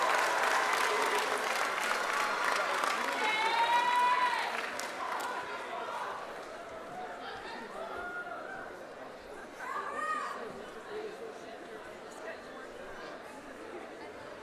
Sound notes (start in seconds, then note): 0.0 cheers